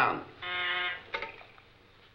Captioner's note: telephone rings